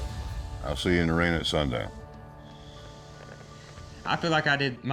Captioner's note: sighs